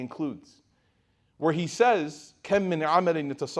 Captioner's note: speaking Arabic